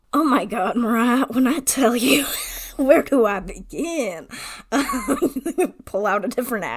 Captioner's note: wheeze laughs, then talks in a bad western accent